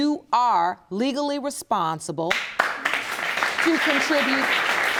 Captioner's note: audience applauding